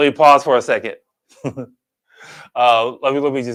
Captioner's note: chuckles